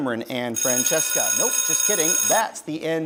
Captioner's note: bell rings